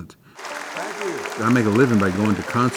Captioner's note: applause